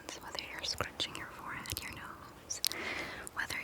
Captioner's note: none